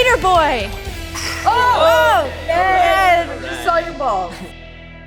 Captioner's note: participants gasp